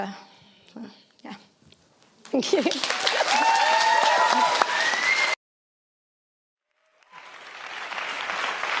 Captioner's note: applause